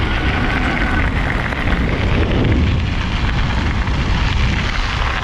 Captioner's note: air whooshing